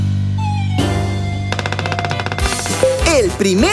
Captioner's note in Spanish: Sonido de pájaro carpintero